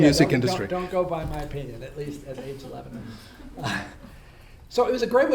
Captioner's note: laughs